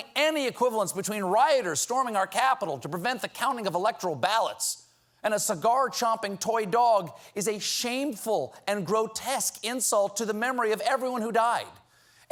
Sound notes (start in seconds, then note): none